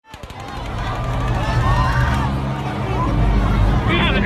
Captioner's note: gunshots